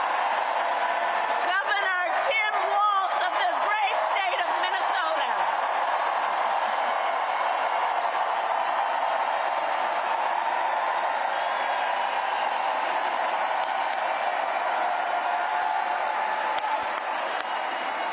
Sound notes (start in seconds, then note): 13.9 cheers and applause